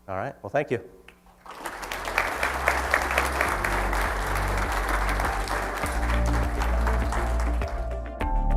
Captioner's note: applause